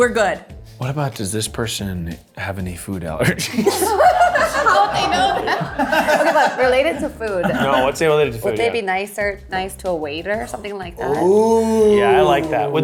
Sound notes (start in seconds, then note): 3.3 laughs